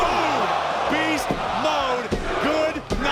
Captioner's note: body thudding; hands thudding